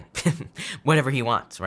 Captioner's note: chuckling